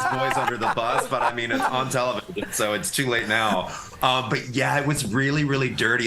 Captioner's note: laughter